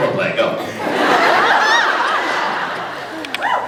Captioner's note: laughs